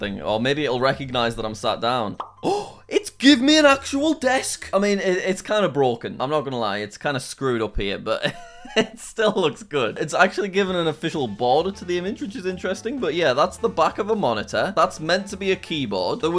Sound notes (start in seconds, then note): 8.3 laughing